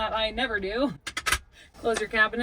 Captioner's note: cabinets clinking